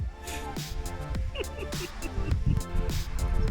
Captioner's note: laughter